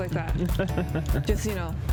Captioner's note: laughs